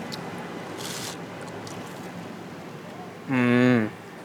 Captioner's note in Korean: 와그작